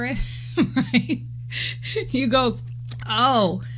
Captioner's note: laughing